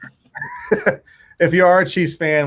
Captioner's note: laughing